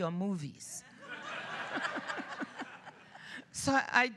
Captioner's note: laughs